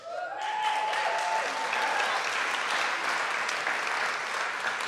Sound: audience clapping

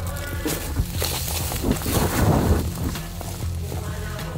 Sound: leaves rustling

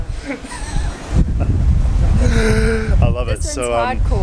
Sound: laughing

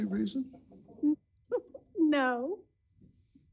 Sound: giggles

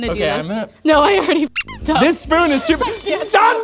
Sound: squeak

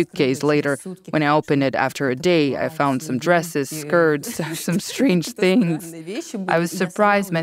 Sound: laughs

